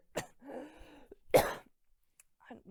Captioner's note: coughs